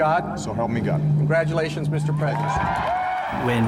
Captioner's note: cheers